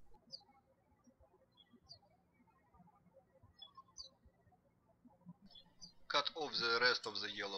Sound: birds chirping

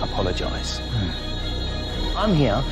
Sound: hums

